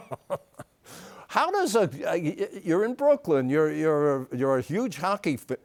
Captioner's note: laughs